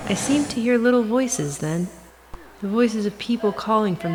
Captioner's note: static